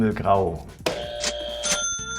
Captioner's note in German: Buzzer; Fröhliche Musik